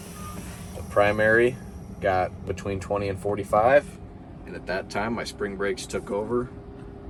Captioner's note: tractor beeps